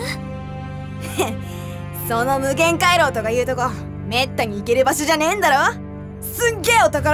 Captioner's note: chuckle